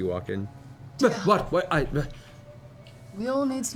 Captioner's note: whispering